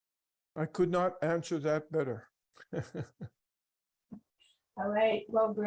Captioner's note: laughs